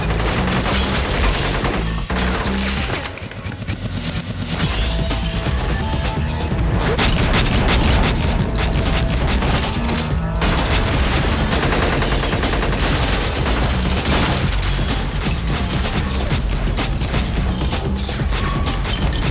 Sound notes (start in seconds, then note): 6.0 gunshots; 6.0 upbeat music